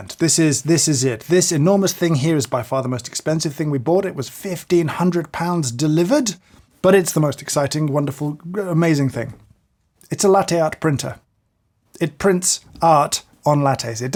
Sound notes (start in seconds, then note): none